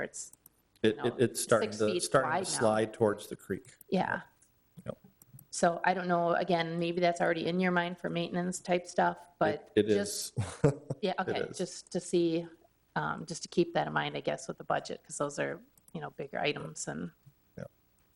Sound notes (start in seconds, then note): 10.3 laughs